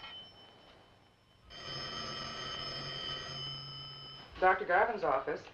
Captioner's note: telephone rings